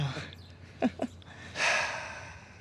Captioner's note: chuckles; dad sighs